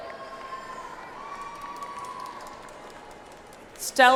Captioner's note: audience applauds